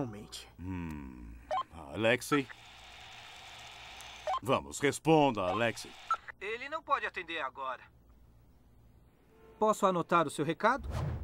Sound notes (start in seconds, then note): 2.3 static; 5.7 nasally voice